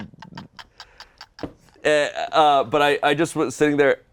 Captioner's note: laughing